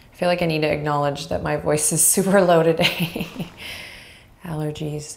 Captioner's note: laughs